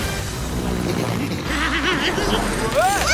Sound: giggling

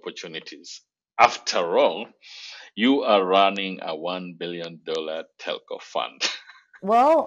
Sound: laughs

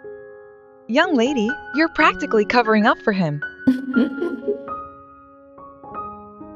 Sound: laugh

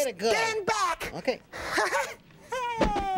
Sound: chuckles

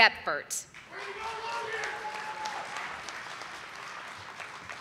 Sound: audience applauding

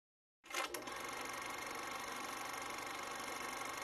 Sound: film projector rolls

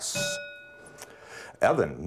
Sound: bell rings

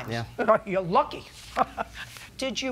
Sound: chuckles

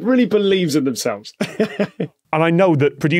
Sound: chuckles

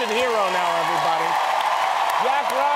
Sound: cheering

